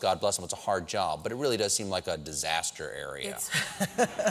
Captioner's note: laughter